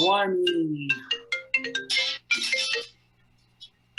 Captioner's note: phone ringing